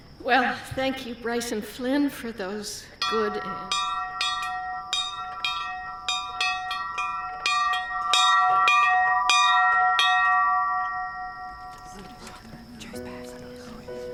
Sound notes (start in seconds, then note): 3.0 bell ringing; 12.2 whispering